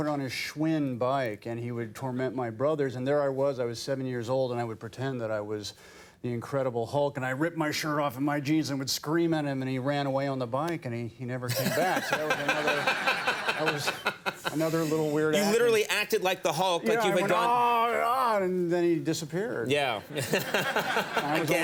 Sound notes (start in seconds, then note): 11.6 Conan and audience laughing; 20.1 Conan laughing